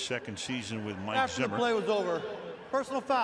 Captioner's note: cheering